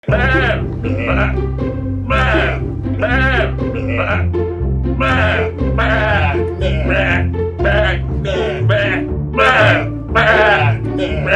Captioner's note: goat sounds